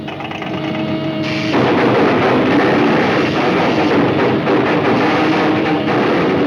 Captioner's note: oil can clattering; electricity sizzling